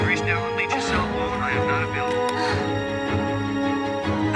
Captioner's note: voice message